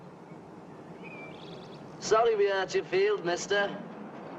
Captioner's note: birds chirping